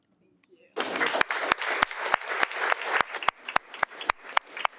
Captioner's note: audience applauding